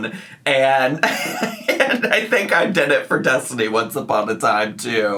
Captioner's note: laughs